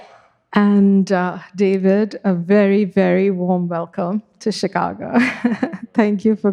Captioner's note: chuckles